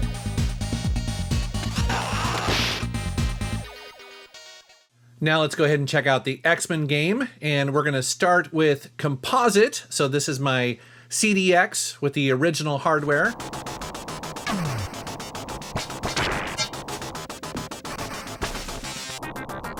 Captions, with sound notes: Now let's go ahead and check out the X-Men game. And we're gonna start with composite. So this is my CDX with the original hardware. (shooting) (techno music)